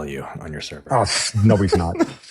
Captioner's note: laughing